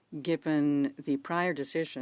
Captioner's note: speaking in French